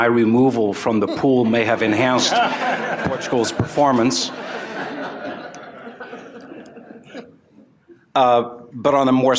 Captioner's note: laughter